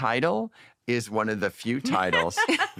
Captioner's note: laughter